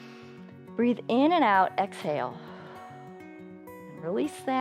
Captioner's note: inhales; exhales